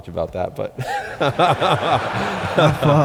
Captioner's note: laughter